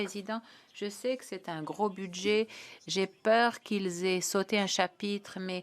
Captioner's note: speaking French